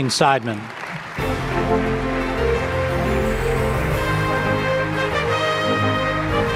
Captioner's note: audience applauding; upbeat music